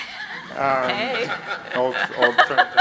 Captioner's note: audience laughs